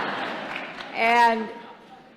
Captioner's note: laughter; applause